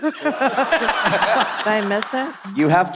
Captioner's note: all laughs